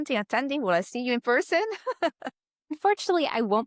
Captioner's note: laughs